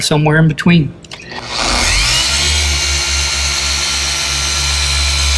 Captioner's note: LHR 75 revving